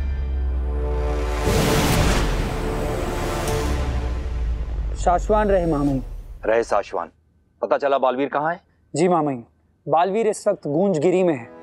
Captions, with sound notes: [whooshing sound] Long live Shaashvaan, Maha Mahim! Long live Shaashvaan! Did you find out where Baalveer is? Yes, Maha Mahim! Baalveer is in Goonjgiri!